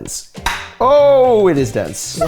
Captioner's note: knife claps